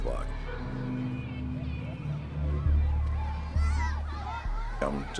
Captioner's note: resonando la charla de los niños